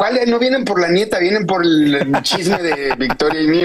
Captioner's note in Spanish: risas